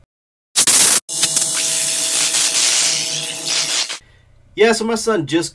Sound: electricity buzzing

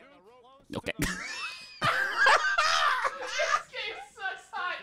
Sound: both laughing

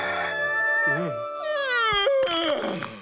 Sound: rooster crowing; yawning

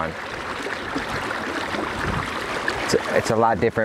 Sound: water splashing

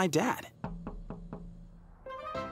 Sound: knocking

